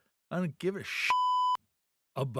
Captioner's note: beep